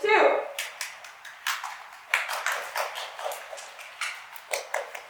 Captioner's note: meager applause